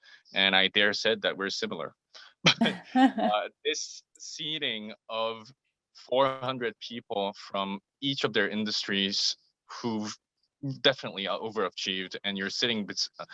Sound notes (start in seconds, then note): 2.4 laugh